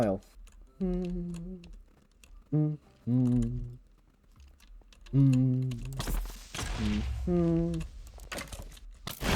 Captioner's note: humming